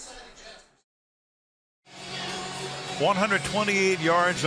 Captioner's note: stadium announcements